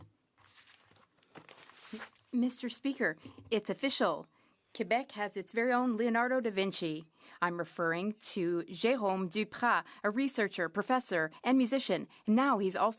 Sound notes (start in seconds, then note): 2.5 speaking French